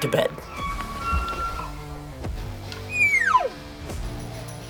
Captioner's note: elk bugling